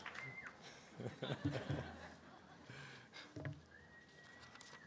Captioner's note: laughter